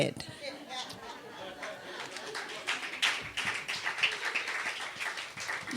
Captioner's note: audience laughter and applause